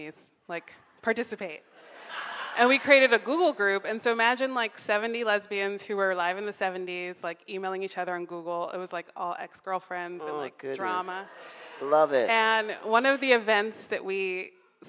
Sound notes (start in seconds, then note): 1.9 audience laughs